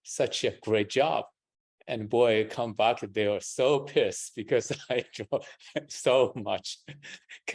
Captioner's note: laughs